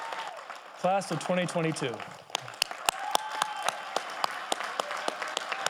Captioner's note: audience applauding; prolonged applause rings